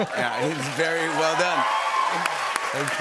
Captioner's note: cheers and applause